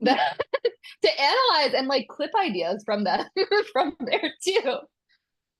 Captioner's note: laughs